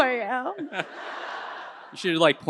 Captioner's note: audience laughing